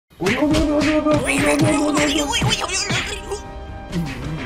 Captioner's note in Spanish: ruidos de pelea